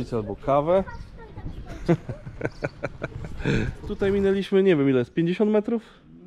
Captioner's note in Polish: śmiech